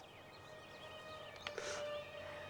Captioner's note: sobbing